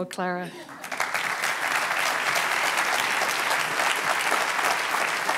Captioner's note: applause